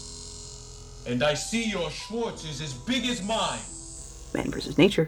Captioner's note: voiceover